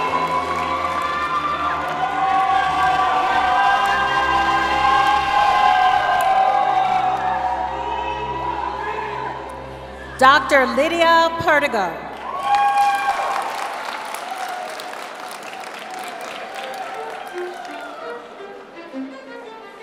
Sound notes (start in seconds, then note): 9.1 cheering; 15.4 applause; 18.2 cheering